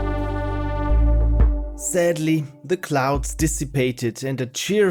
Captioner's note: narrating